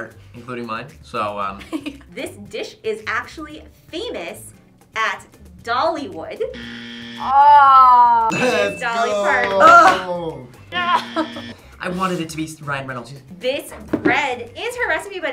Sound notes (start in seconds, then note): 1.3 laughs; 6.5 buzzer; 8.3 ding